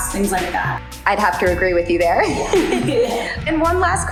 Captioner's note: laughs